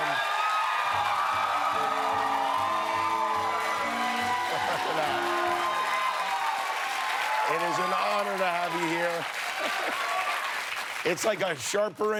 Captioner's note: cheers and applause